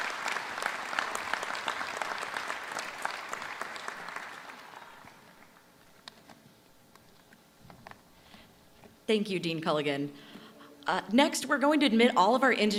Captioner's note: applause